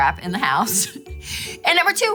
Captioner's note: laughs